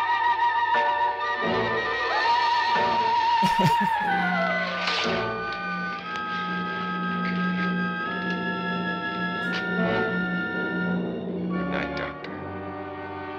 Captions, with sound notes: [chuckles] Good night, doctor.